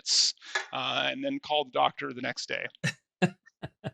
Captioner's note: laughs